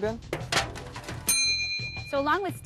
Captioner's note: dings